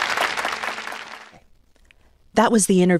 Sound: applause

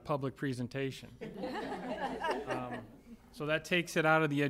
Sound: laughter

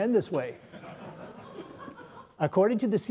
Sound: audience laughs

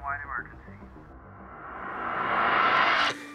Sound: radio broadcasting; riser

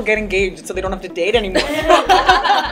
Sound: laughing

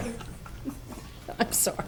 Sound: people chuckling

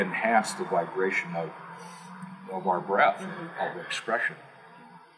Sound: inhale

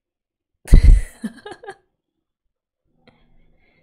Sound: laughs

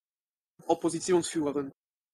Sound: fast Pronunciation

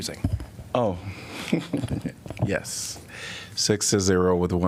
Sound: laughter

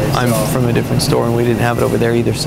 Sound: none

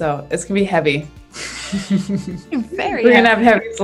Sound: both laugh

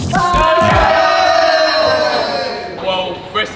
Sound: lads cheering

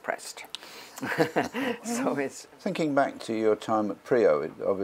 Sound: laugh

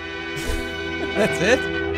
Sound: laughs

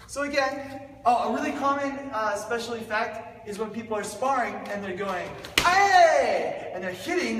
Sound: slap!

